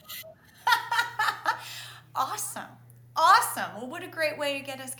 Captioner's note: laughs